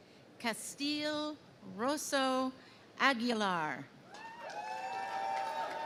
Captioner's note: crowd cheering